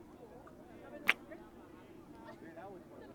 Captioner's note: kiss